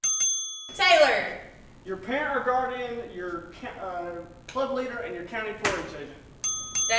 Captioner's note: ding ding; ding Ding